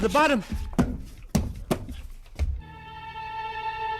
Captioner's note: body thudding